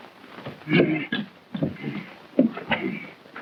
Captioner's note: grunting